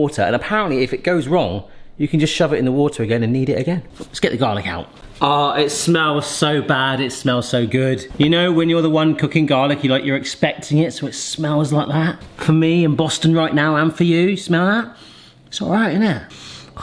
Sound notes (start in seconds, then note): 16.3 sniffs